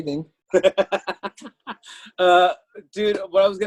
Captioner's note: laughs